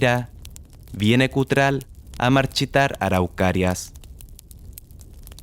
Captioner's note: flame